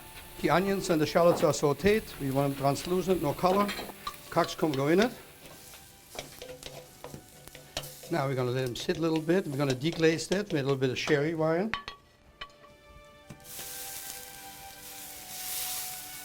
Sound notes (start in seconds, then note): 0.0 sizzling; 0.0 tapping; 6.8 sizzling; 13.3 sizzling